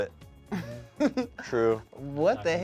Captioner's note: laughs